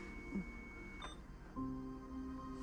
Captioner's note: monitor beeps off